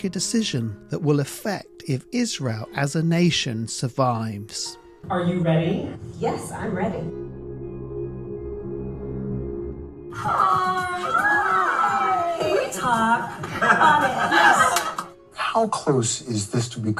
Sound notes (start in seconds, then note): 14.4 laughing